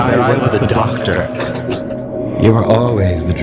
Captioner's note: A door opens